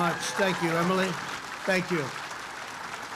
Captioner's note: applause